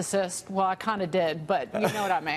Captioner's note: laughter